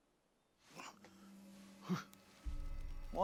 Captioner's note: Benny grunting